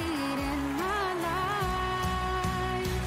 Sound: crowd cheering

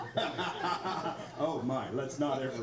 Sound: laughs

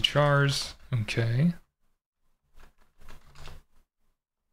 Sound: typing

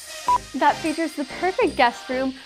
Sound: beep

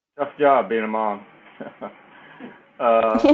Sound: laugh

